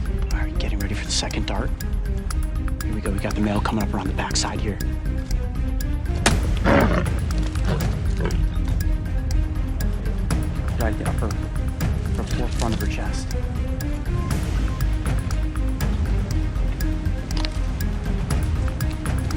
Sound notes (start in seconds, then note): 6.5 gun fires; 6.6 growling